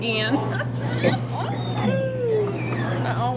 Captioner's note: laughs